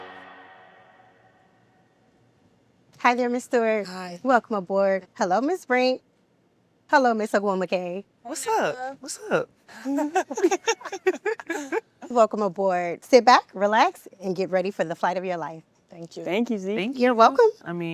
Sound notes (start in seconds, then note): 9.7 women laughing